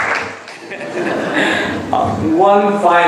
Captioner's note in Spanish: laughs